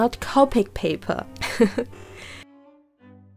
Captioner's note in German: dumme Lache